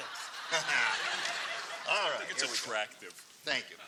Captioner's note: laughs